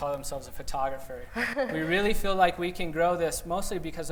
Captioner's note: laughter